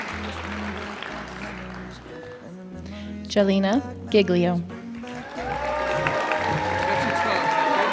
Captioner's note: applause